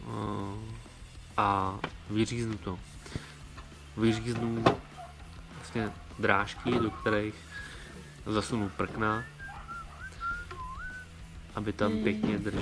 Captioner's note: steps